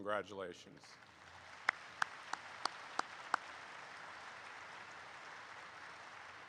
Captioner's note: audience applauds